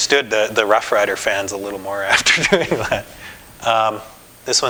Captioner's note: laughter